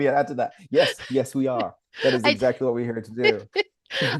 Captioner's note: both laugh; laughs